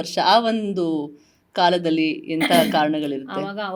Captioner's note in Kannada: ಗಂಟಲು ಸರಿಮಾಡಿಕೊಳ್ಳುವಿಕೆ